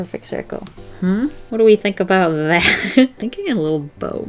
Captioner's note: laughs